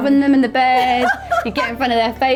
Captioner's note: laughing